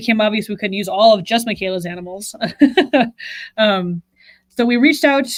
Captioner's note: laughs